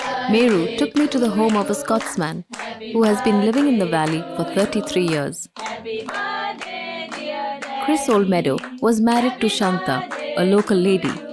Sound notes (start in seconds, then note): 0.0 singing in chorus; 0.0 applause; 5.6 singing in chorus